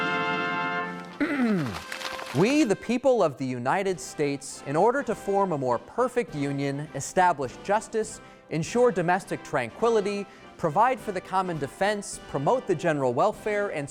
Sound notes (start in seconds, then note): 1.1 clears throat